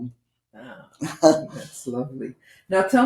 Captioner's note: laughing